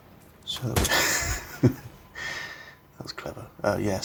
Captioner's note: wheezy chuckle